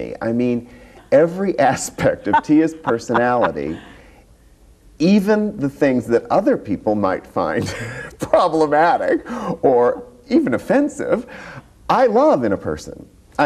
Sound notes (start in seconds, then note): 2.0 laughs; 7.7 laughs